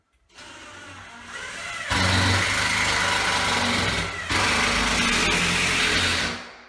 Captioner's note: drilling